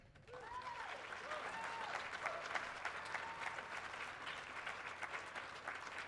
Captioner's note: people applauding; people whooping